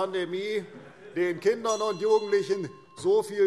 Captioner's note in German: Anhaltende Zurufe - Glockenzeichen